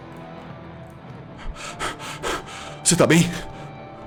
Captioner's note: panting